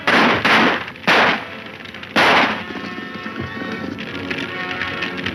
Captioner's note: gunfire intensifies